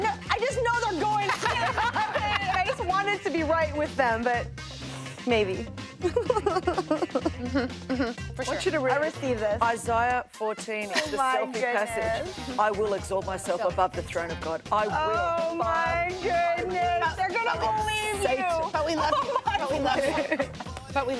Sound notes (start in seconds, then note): 1.1 all laughing; 6.0 laughs